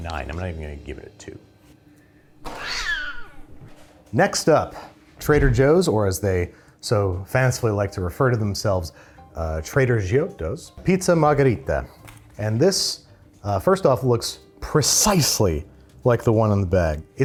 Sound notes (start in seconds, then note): 2.4 cat screeching